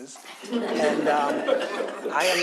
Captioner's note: audience laughs